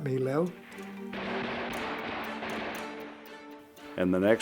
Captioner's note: gunshots ring out